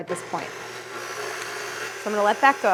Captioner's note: machine whirring